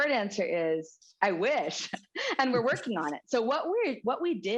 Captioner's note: laughter